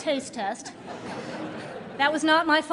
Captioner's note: laughter